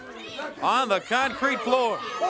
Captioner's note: crowd cheering